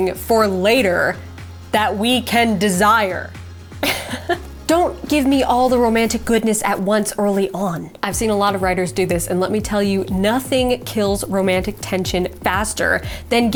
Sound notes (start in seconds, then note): 3.8 chuckles